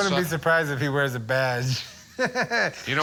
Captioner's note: laughs